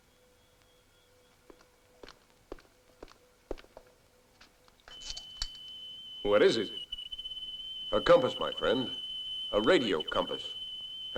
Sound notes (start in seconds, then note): 4.7 device beeping